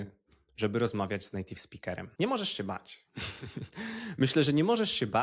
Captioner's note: laughter